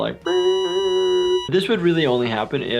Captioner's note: imitates beep